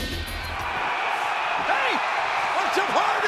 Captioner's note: audience cheering